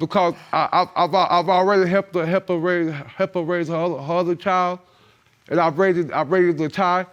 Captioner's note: stammering